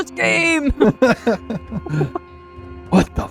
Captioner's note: laughing